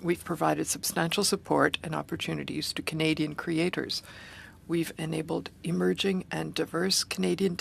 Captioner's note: speaking French